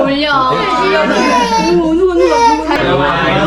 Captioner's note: sob